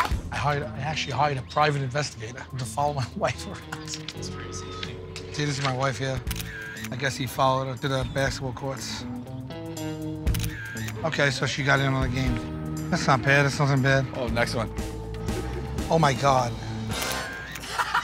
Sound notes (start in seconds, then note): 10.2 camera shutter clicks